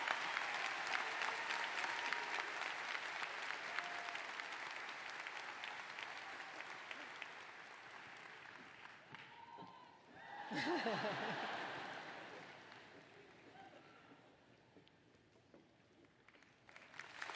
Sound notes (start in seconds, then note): 5.5 laughter; 13.2 cheers and applause